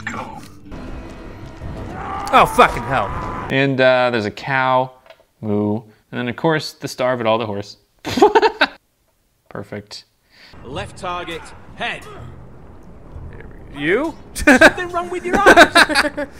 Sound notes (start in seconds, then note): 0.2 voiceover; 7.9 laughs